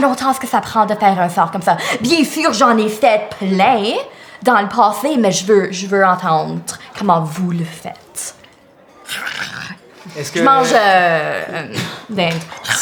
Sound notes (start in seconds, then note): 9.0 loud chewing